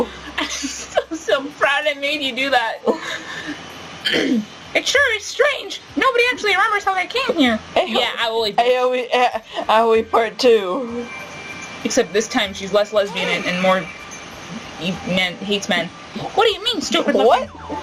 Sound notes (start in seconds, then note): 0.1 laughing; 4.0 coughing; 4.6 Doge!Mahiru, in a high pitched voice